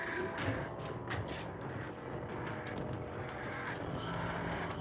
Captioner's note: groaning